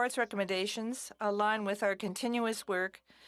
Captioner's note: speaking french